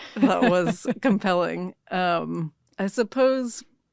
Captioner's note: chuckles